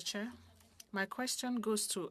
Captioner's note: speaking French